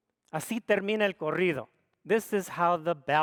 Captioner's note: speaks foreign language